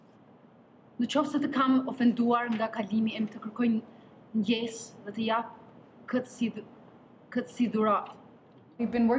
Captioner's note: in Albanian